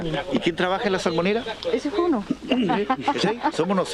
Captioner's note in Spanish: risas